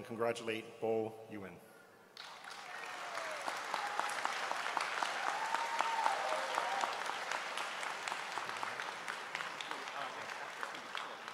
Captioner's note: applause